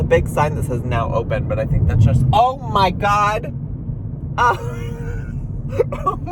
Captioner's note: laughs